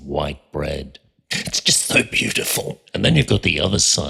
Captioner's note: sobbing